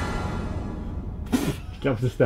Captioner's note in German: Pfft!